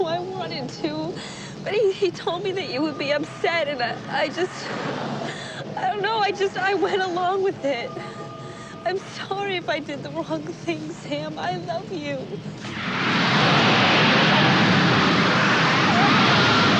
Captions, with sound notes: I wanted to, but he told me that you would be upset, and I just.. I don't know. I just... I went along with it. I'm sorry if I did the wrong thing, Sam. I love you! [flames whooshing]